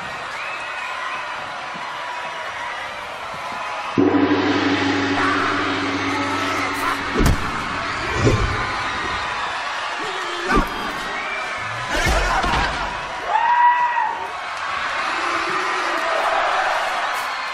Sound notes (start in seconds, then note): 4.0 gong sounds; 5.4 cheering crowd